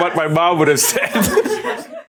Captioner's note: laughs; staffs laughing